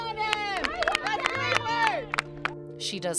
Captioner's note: collective cheering